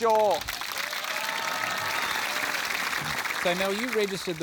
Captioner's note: applause